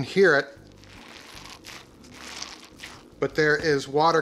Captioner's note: squishes